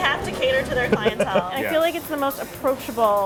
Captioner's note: laughing